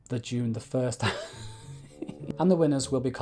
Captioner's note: laughing